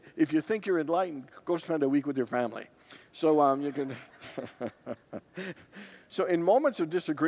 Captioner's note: congregants laugh; laughs